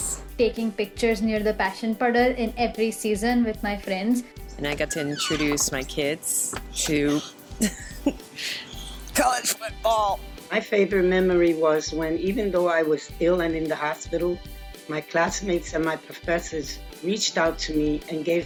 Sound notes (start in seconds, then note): 6.6 laughs